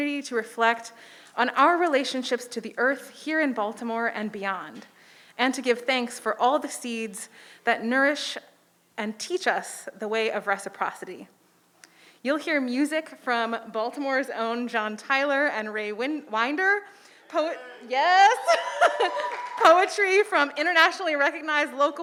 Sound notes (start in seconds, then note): 18.8 audience applauding